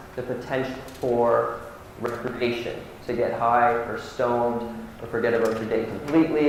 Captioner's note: audio warps